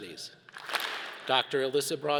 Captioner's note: all clap